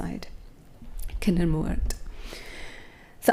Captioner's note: speaks in foreign language